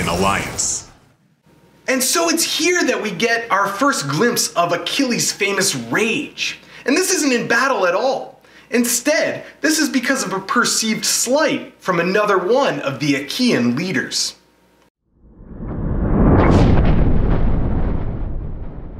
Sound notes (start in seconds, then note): 15.2 rumble